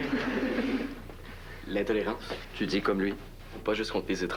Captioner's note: Rires